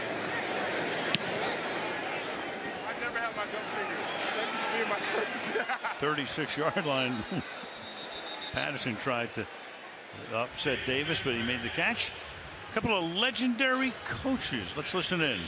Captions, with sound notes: [on field chatter] 36-yard line. [whistle blows] Patterson tried to upset Davis, but he made the catch. A couple of legendary coaches.